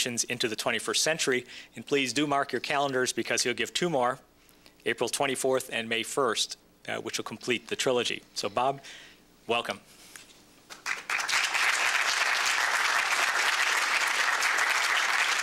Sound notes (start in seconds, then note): 10.7 applause